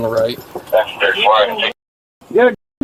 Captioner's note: radio chatter